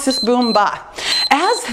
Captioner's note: timer beeps